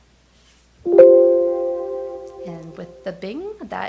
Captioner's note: speakers trill